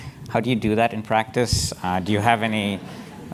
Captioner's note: laugh